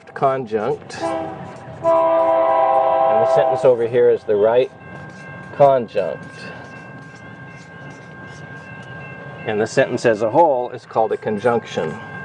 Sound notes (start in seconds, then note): 0.9 whistle blowing/bell clanging; 6.0 bell clanging; 11.1 bell clanging